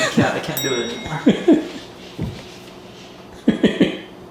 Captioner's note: laughing